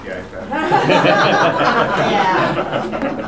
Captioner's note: laughter